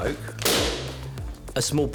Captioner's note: balloon pops